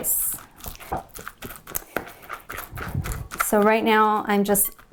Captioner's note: pounding